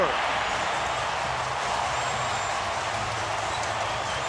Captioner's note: cheering